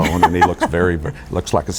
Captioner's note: laugh